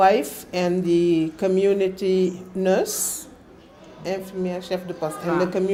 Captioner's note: wolof